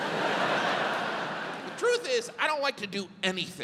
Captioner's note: audience laughs